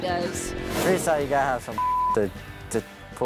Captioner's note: beep